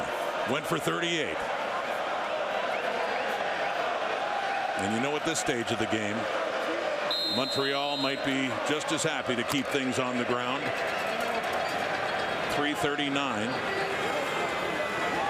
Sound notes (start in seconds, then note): 7.5 crowd Noise